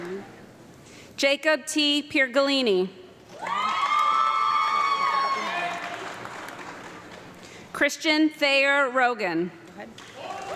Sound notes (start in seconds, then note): 3.3 audience clapping and loud screaming